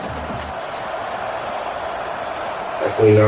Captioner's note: crowd Noises